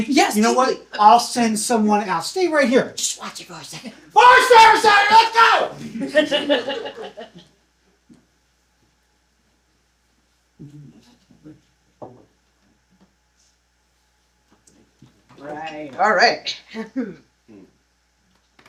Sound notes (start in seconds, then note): 5.2 shouting; 5.8 laughter